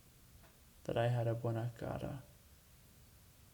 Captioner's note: speaks Spanish